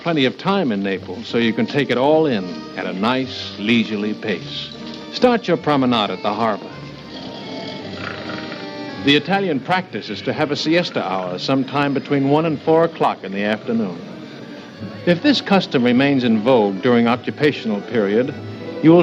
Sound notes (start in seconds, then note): 5.2 snoring